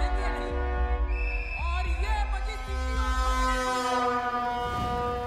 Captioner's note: Whistle blows